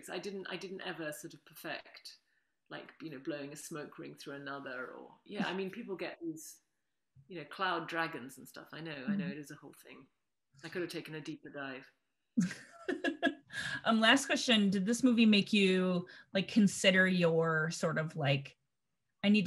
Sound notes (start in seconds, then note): 12.4 laughter